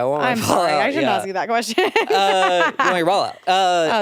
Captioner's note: laughs